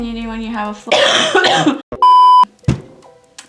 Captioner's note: coughs